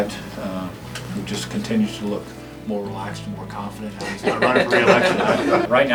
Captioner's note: laughter